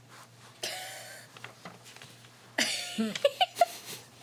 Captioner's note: laughing